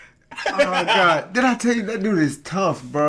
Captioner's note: laughing